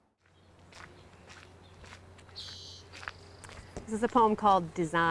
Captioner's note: footsteps on trail